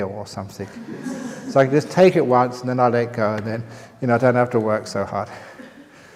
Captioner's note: laughter